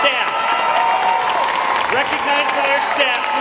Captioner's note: audience applauding